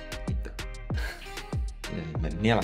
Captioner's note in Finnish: naurahdus